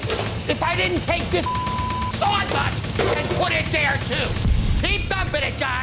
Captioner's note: beep